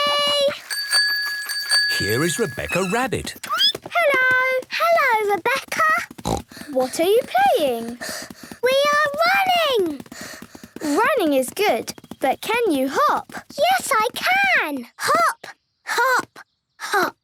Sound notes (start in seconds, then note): 0.4 bike bell; 6.2 snort